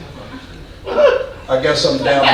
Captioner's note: audience laughing